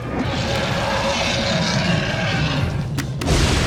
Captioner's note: monster roars